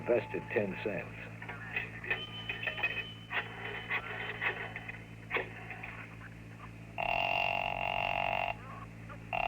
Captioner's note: phone ringing